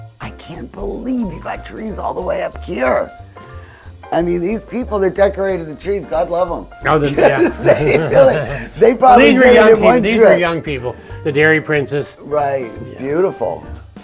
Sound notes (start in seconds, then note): 7.1 both chuckle